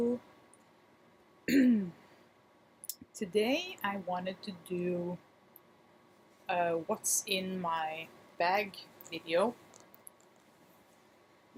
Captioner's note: clears throat